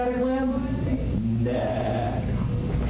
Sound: braying

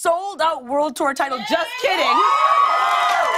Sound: cheers and applause

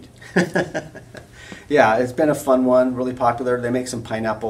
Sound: laughs

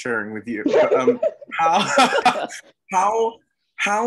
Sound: chuckle

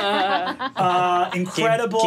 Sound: laughs

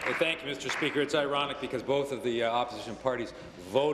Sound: applause

